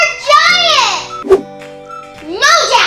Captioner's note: whooshing